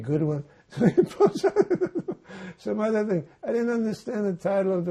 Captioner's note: laughing